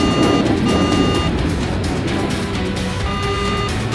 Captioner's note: beeping